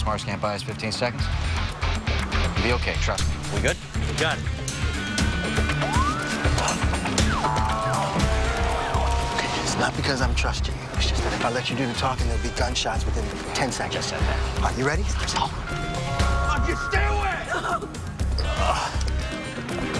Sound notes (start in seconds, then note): 15.9 whispers; 17.3 groans; 17.4 woman sobbing